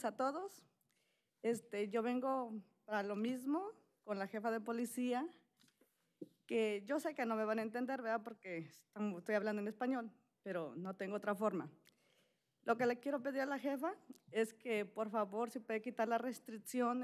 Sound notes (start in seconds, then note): 4.1 speaking spanish